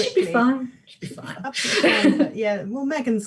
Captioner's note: laughs